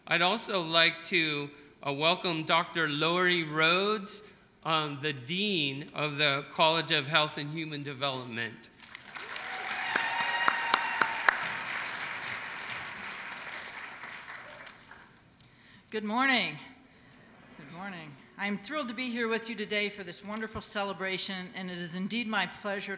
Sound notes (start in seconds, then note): 14.9 applause